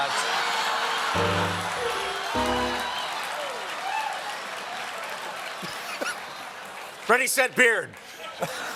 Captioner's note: laughter